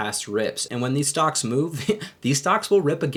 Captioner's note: laughing